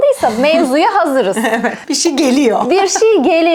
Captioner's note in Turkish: kahkaha